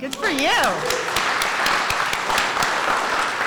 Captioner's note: applause